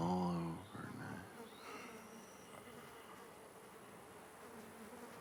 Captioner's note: flies buzzing